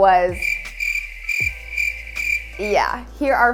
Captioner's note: crickets chirping